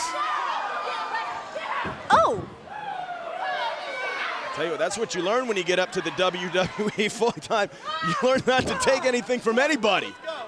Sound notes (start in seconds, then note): 0.2 crowd chattering; 7.6 laughs